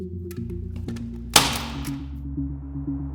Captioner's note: sound of staple gun triggering